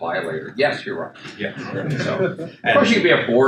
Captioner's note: attendees chuckle